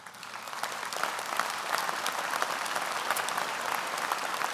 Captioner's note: audience applauds